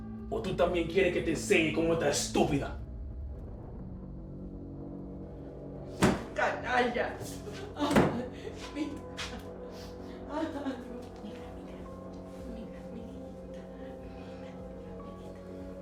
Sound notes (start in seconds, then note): 0.2 Spanish; 6.0 Spanish; 7.3 Mamma Pita crying; 13.8 ominous music playing